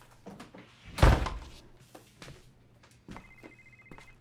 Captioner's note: door thudding; cell phone ringing; mysterious music